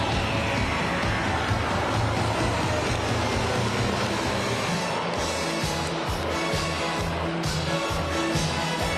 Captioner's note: cheers and applause